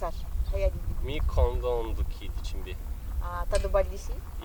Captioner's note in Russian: говорит по-кондонски